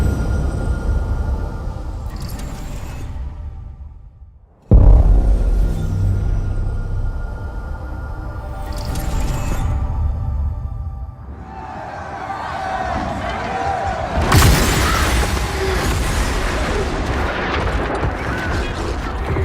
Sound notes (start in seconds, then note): 11.2 crowd yelling; 14.1 explosion